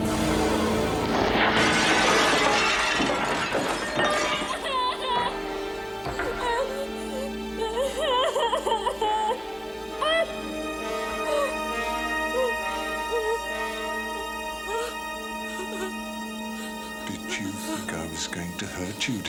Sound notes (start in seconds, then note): 1.0 glass shattering; 6.0 Cathy crying